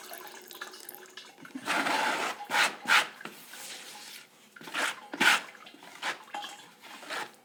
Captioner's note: scrapping